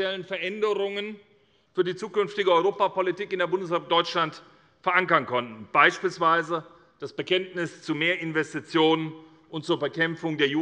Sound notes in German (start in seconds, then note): none